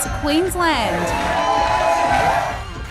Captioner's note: cheering